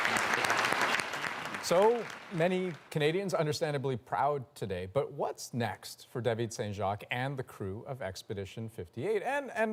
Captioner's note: applause